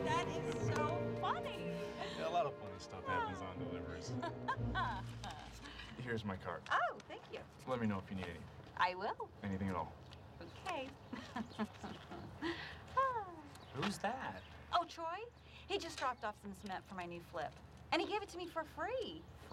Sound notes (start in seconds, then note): 6.4 laughs; 14.4 chuckles